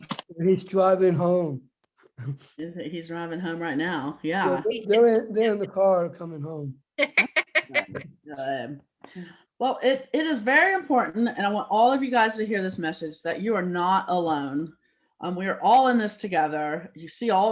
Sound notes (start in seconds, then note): 1.5 chuckle; 7.0 laugh